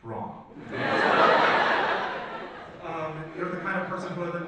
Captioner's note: audience laughs